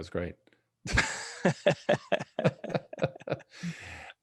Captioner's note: laughs